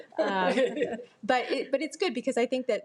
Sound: board members chuckle

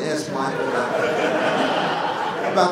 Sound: laughter

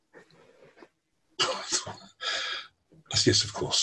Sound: chuckles

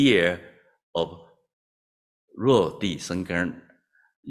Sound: non-english

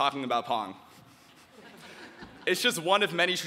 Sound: audience chuckling

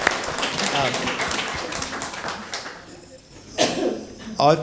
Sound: audience applauding

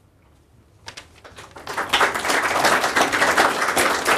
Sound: applause

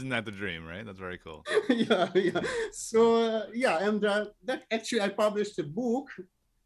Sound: laughs

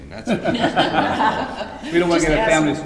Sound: all laughing

